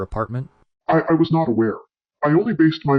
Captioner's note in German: verzerrtes Stottern